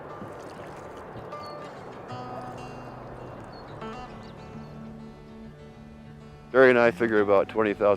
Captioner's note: paddle swishing water; gentle guitar music